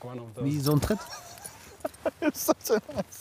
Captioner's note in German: Lachen